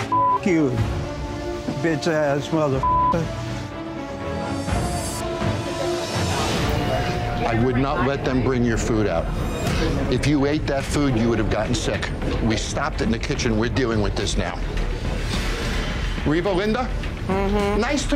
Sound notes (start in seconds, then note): 0.0 beep; 2.8 beeper